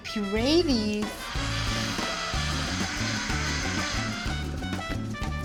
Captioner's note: whirring